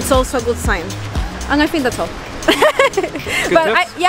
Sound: laughs

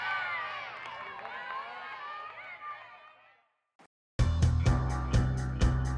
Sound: crowd cheering

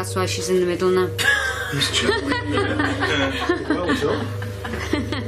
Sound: laughing

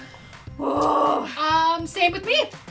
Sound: groans

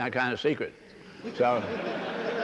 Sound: laughter

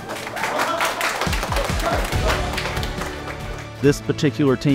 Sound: students applaud

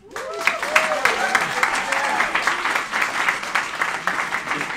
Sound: cheering and applauding

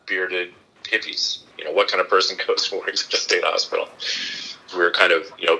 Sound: laughing

